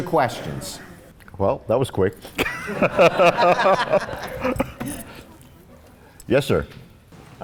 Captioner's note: laughs